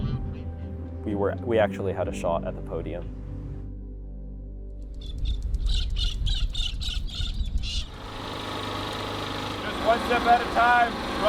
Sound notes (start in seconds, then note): 5.9 parrots calling; 7.8 generator Running